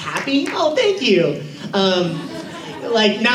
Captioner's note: claps